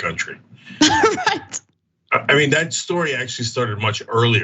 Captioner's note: laugh